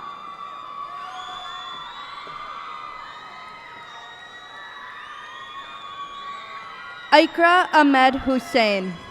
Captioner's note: cheers and applause